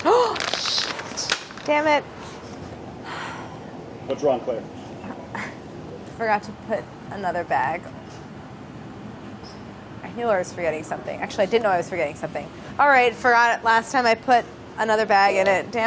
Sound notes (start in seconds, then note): 0.2 inhales sharply; 3.0 exhales